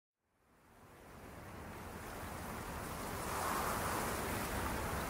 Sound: river flowing

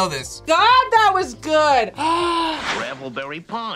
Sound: gasps

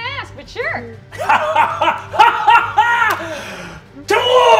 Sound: laughing

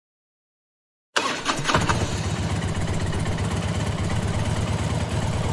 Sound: Suzuki WitchCycle Starting

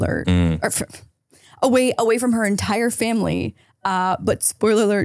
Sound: chuckles

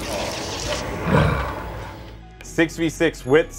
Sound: lion growl

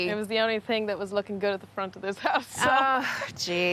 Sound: laughs

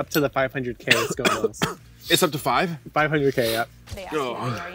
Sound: coughs

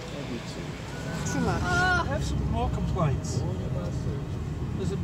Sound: aghast wail

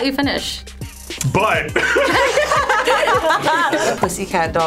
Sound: everyone laughs

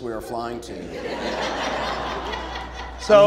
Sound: audience laughing

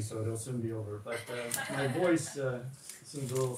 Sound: all chuckling

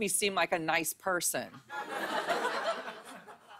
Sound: laughter

